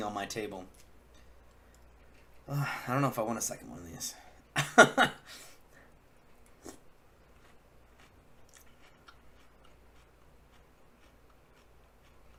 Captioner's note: laugh